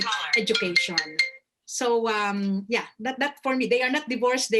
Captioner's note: phone rings